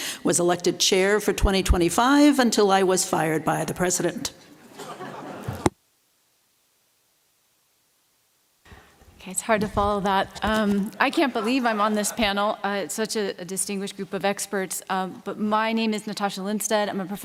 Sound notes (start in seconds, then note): 4.7 laughter